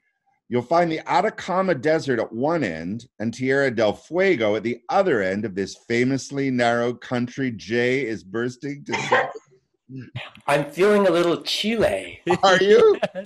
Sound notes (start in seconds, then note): 8.4 coughing; 12.0 laughing